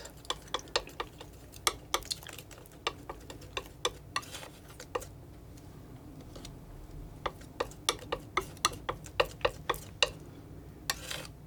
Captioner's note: tapping